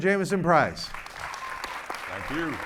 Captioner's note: audience clapping